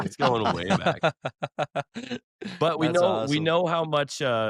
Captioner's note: laughs